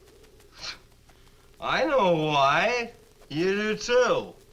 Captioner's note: scoffs